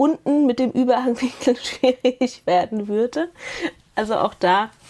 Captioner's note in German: gelächter